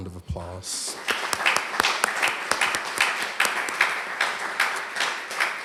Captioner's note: applause